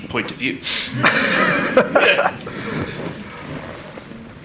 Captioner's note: everyone laughs